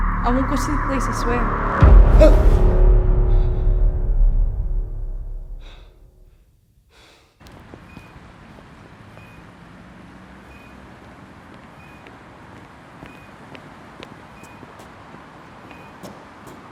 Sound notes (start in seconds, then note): 2.2 dramatic music; 8.4 squeaking